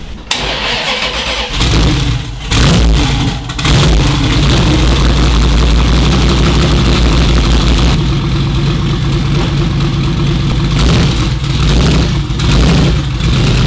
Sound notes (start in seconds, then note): 0.3 more vrooming